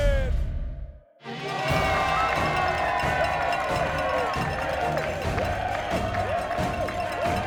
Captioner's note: crowd cheering; uplifting music